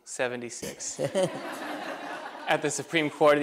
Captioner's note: laughter